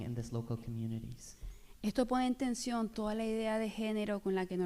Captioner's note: speaking spanish